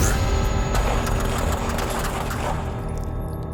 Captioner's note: gunfire